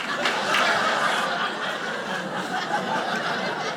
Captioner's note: audience laughing